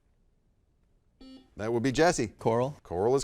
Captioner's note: buzzer dings